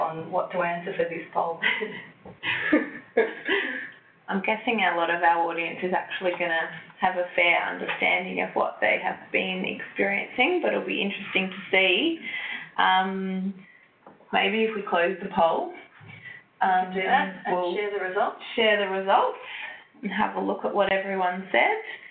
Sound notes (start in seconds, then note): 2.4 laughter